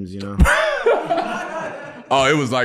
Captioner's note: group laughing